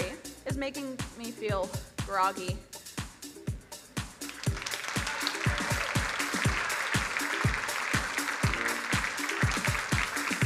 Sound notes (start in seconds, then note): 4.1 crowd applauding; 4.3 upbeat music